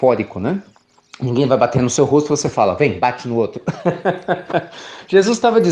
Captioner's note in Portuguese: Risos